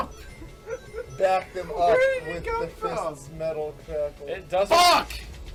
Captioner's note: laughing